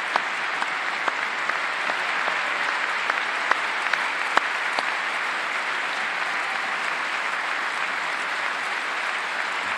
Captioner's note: applause